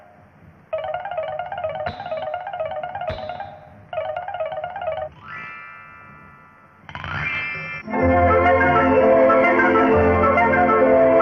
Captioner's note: bell